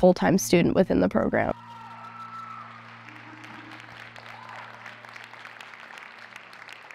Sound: audience cheering

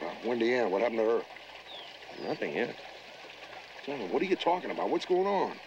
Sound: water lapping

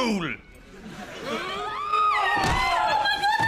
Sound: people screaming

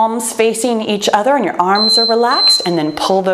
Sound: timer beeps

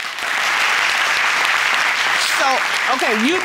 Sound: audience applauding

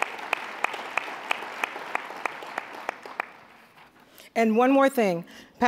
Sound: applause

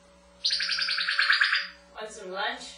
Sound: laser sound

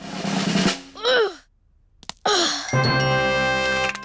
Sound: drum roll; groans

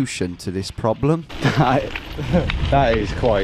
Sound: laughs

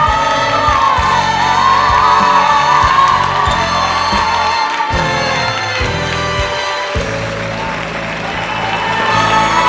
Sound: cheers and applause

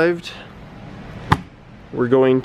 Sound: thunking

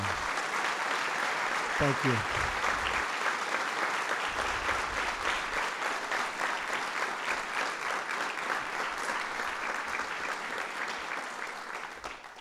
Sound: applause

